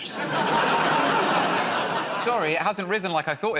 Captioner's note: laughter